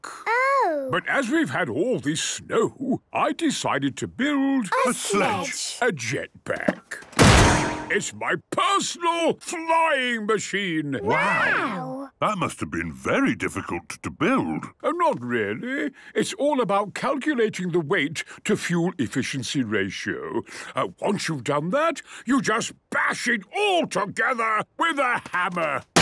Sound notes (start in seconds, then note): 7.1 clangs